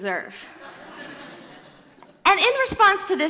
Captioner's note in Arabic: ضحك